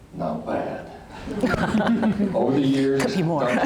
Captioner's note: laughter